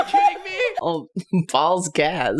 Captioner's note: chuckles; laughing hysterically; yelling, in complete and utter disbelief and anguish